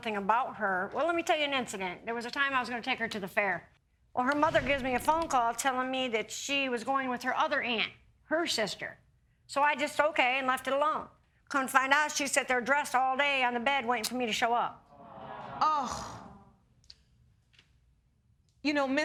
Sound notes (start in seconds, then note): 14.9 audience groaning